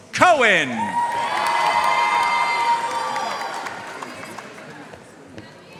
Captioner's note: audience cheering and applauding